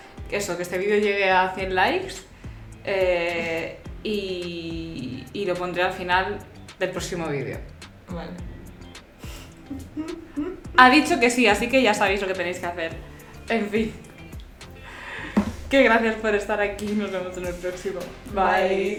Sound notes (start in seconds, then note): 8.7 surprised